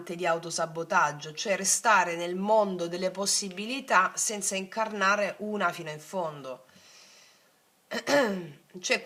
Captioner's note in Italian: schiarire la voce